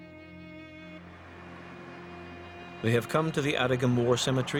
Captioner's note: voiceover